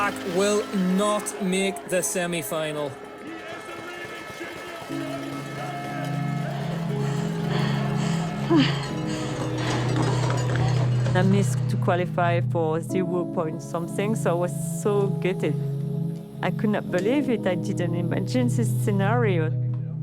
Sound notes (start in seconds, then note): 7.0 breathing heavily